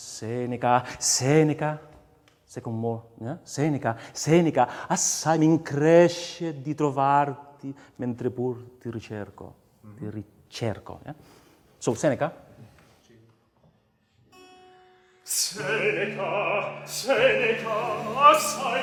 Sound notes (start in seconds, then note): 5.3 speaks in foreign language; 15.3 baroque opera music